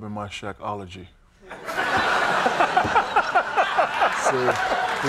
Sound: audience laughing

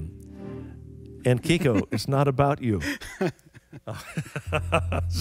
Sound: laughs

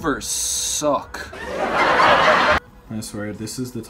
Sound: canned sitcom laughter

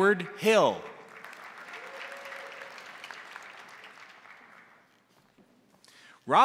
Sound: crowd applauding; crowd cheering

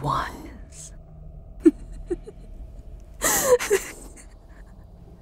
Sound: Seraphina's shoulders shake as she laughs, bordering on hysterical

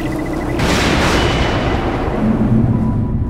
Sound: thunder clap; spooky music

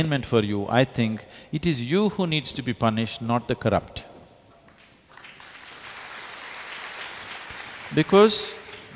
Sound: applause

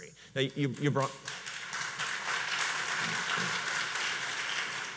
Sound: audience applauds

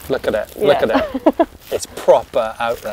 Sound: laughing

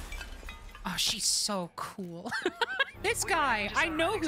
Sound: laughter

